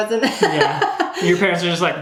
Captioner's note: laughing